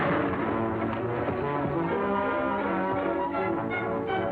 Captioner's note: weapon fires; body thuds